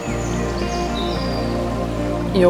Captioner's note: birds calling